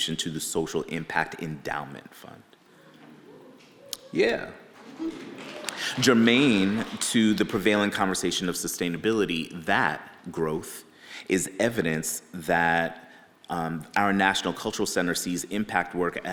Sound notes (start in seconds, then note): 2.4 audience members cheering; 4.8 audience applauds